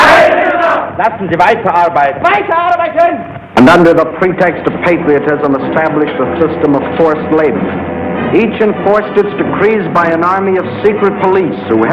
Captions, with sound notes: (crowd shouting) (man speaking German) And under the pretext of patriotism established a system of forced labor. Each enforced its decrees by an army of secret police